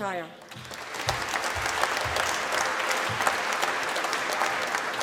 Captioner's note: applause